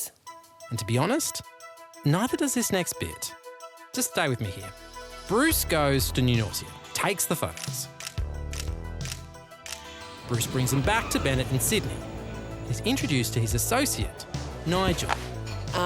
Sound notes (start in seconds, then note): 7.5 camera clicks